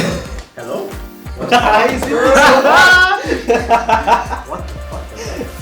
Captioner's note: both laugh